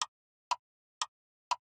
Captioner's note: clock Ticking